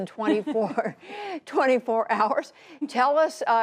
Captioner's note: laughter